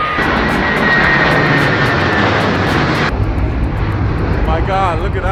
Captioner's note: plane engines roaring